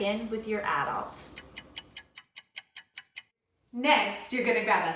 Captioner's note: timer ticking